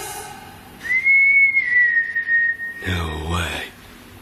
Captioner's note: whistling